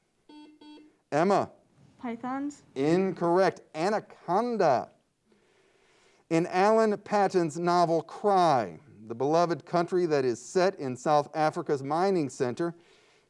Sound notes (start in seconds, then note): 0.2 buzzer beeps